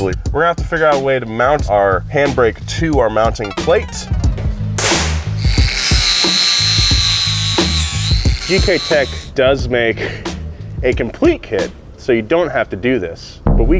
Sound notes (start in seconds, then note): 4.6 metal bangs; 5.6 grinder buzzes